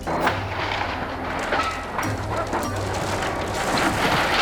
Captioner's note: yacht crumbling